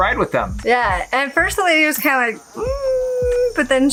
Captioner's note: doubtful sigh